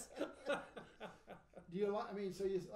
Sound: laughing

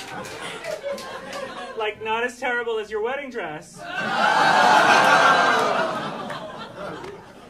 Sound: audience shouting

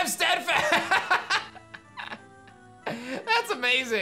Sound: laughs

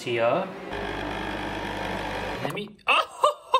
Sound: coffee machine humming

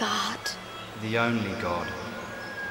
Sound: voiceover

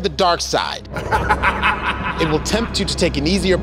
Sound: sinister laughter

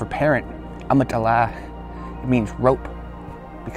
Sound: speaking Native language

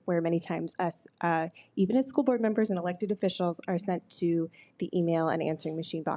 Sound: none

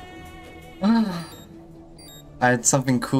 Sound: sighs

